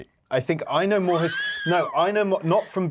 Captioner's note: Yerin laughing